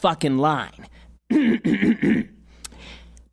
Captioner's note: clears throat